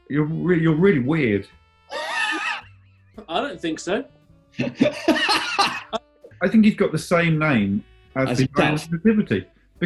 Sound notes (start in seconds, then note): 1.9 sniggering; 4.5 laughing